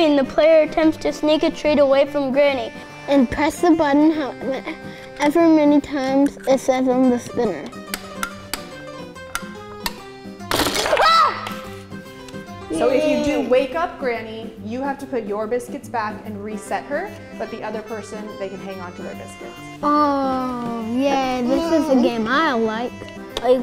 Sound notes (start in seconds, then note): 8.3 button clicks; 10.5 loud clatter